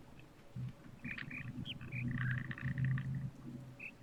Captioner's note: bird chirps five notes